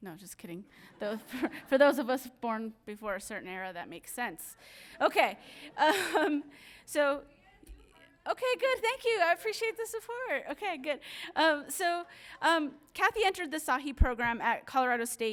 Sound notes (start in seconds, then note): 0.8 audience laughing; 5.8 woman chattering